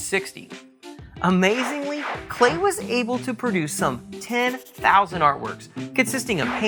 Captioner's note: swish